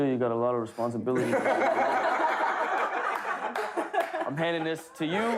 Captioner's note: laughter